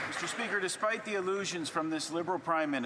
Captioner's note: applause